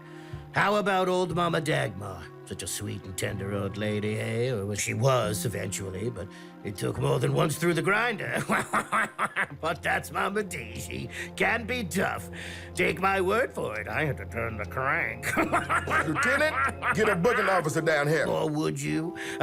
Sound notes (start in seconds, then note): 8.3 laughs; 15.2 laughs